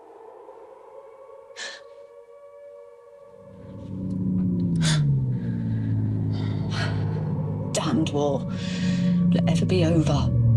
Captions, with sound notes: [DISTANT PLANE] Damned war, Will it ever be over?